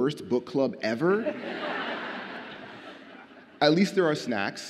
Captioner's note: audience laughs